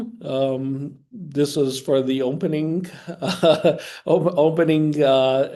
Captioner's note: chuckling